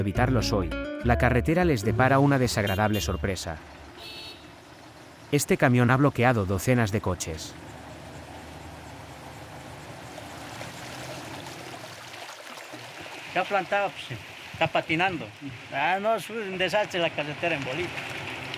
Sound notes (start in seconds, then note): 11.2 water trickling; 13.8 driver speaking in foreign language